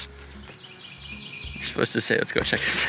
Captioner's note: bird sings